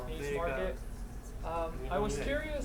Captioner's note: speaking in foreign language